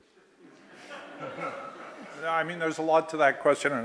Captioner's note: laughter